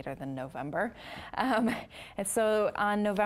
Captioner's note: chuckling